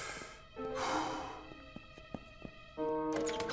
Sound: inhaling and exhaling

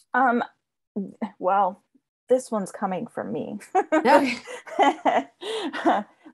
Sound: laughs

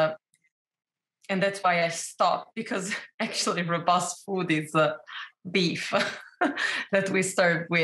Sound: chuckles

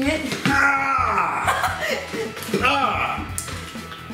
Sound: groans

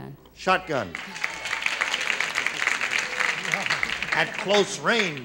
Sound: applause

